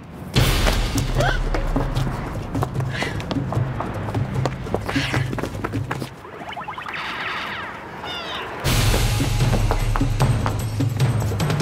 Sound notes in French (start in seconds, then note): 6.0 sons jeux vidéo